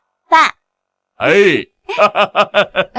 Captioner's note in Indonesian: tertawa puas